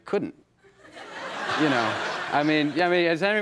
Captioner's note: audience laughs